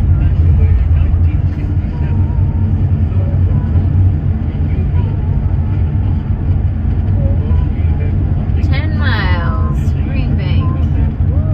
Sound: radio station and singing

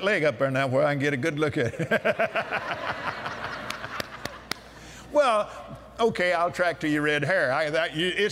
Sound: laughter

